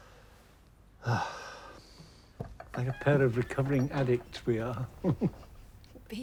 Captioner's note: sighs